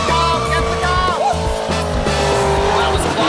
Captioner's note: screeeeeeeeeeeeeeeeeeeeeeech